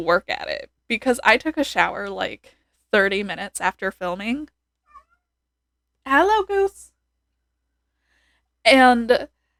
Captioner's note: meow